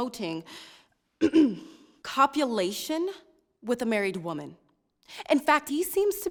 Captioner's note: clears throat